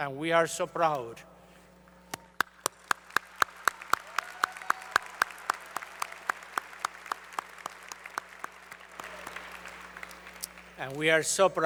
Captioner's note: applause